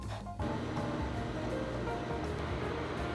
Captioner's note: water simmering